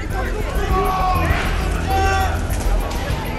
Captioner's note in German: Lautes Stimmengewirr